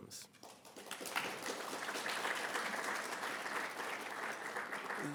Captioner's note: audience applauding